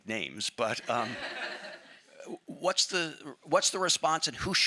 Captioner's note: audience laughing